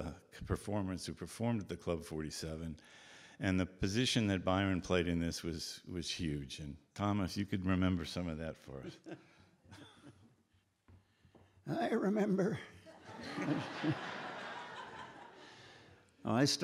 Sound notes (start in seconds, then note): 11.8 fake raspy voice; 12.9 audience Laughing